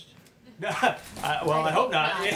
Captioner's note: laughs